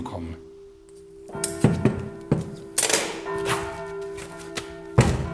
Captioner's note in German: Schnittgeräusch, ferne Kirchenglocken